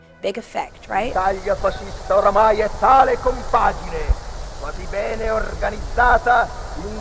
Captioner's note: Mussolini speaking in foreign language